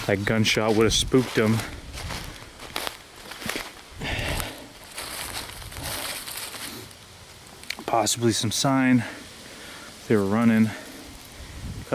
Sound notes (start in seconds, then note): 2.8 leaves crunching; 3.9 softly breathing